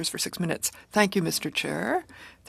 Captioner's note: speaking French